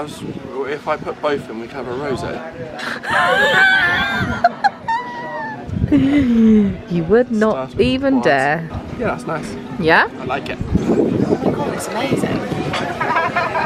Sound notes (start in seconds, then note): 2.8 laughs